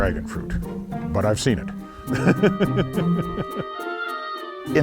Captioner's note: rires